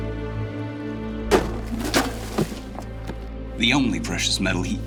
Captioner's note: kicking, clattering